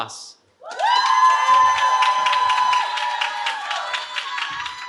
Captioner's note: cheering